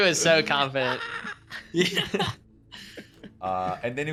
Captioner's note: laughing